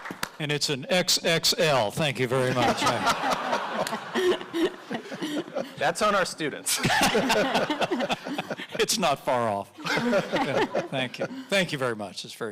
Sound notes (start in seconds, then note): 2.3 audience laughing; 9.6 audience laughing